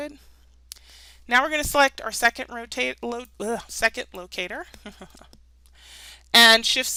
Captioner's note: chuckles